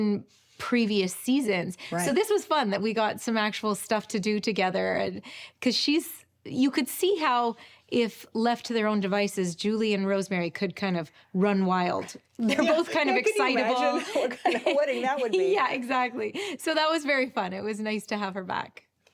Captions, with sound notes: in previous seasons. So this was fun, that we got some actual stuff to do together, 'cause she's... You could see how if left to their own devices, Julie and Rosemary could kind of run wild. They're both kind of excitable. - Can you imagine (both chuckle) what kind of wedding that would be? - Yeah, exactly. So that was very fun. It was nice to have her back.